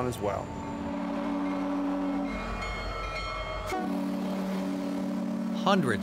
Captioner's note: train whistles